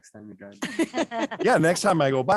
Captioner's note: laughter